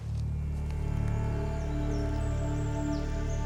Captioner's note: birds chirping